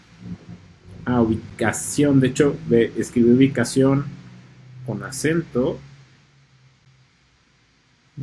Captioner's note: in spanish